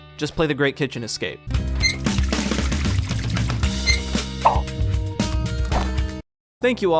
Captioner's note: game sound effects; upbeat music